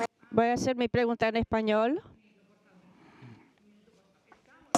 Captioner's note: speaking foreign language